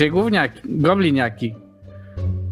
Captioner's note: none